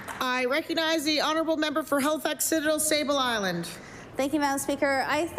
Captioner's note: applause